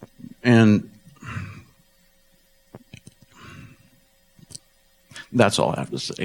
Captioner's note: laughs